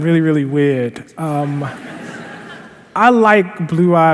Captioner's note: laughter